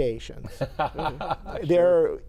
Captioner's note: laughing